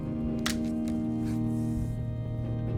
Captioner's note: walking stick breaks